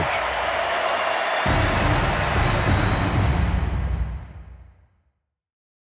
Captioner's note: crowd cheering continues